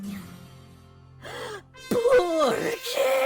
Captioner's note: gasp